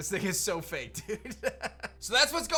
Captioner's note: laughs